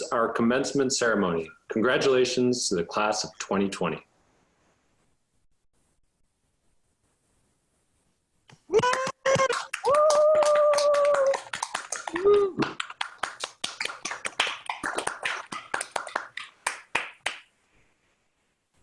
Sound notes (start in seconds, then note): 8.8 applause